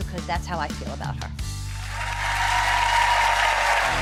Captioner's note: applause